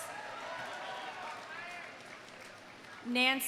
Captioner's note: audience cheering; audience applauding